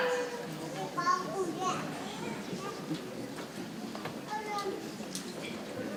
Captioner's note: people chattering softly